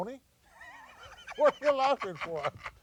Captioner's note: laughing